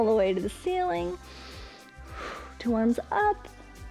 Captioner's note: inhales and exhales